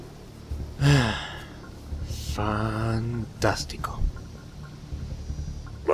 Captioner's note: sigh